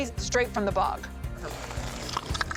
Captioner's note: crunching loudly